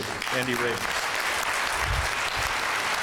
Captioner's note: applause